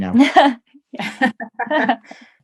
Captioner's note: laughing